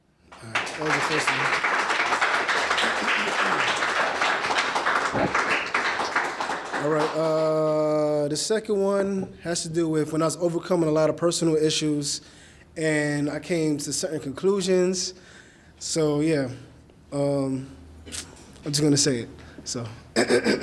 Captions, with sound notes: All right, that was the first one. (audience clapping) All right, the second one has to do with, when I was overcoming a lot of personal issues, and I came to certain conclusions. So, yeah. I'm just going to say it, so,